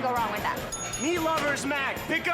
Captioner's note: bell rings